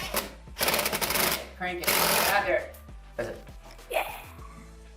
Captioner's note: mechanical noise